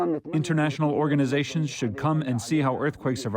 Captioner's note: through translator